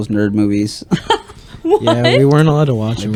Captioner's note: laughter